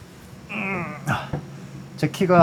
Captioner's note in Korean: 습관성 끙끙거림